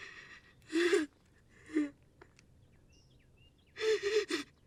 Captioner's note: Hanna crying